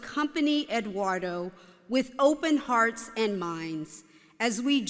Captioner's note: none